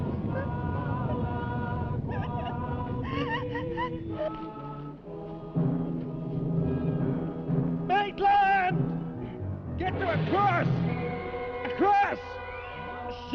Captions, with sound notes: (Pat whimpering) - Maitland, get to a cross. A cross.